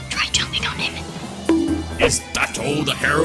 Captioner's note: bonk